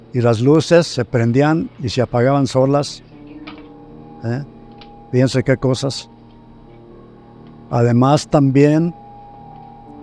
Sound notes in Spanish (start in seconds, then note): 3.4 Ruido paranormal